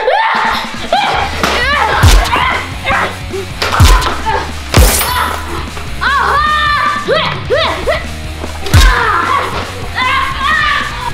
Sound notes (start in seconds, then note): 0.0 screaming; 3.6 grunting; 5.9 screams